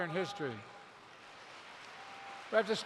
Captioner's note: applause